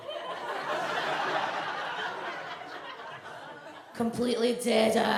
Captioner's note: audience laughs